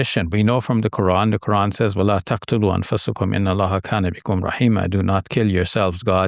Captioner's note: speaks Arabic